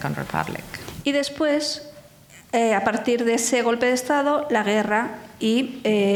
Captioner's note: speaking in foreign language